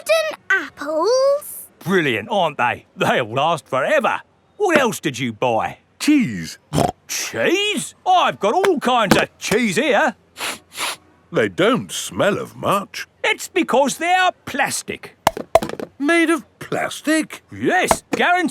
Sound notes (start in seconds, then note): 6.8 snorts; 10.4 sniffs; 15.3 clunks